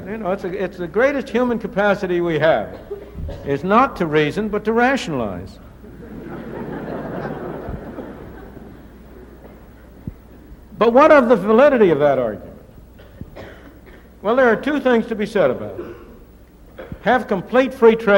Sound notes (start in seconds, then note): 9.0 laughter